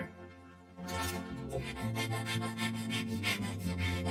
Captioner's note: panting; tense music plays